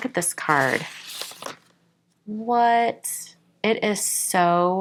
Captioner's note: paper rustling